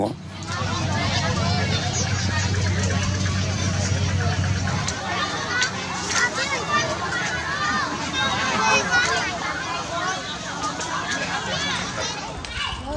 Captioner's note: Children speaking Khmer